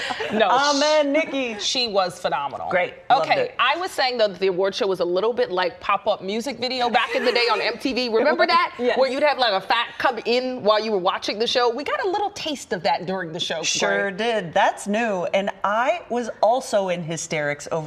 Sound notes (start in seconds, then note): 2.9 laughter